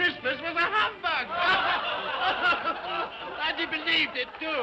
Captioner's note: all laugh